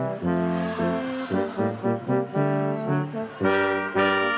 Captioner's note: crowd chattering